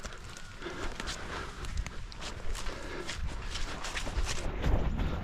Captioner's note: breathing heavily